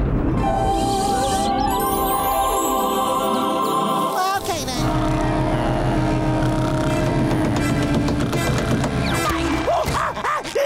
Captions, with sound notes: Well, okay, then. [snoring]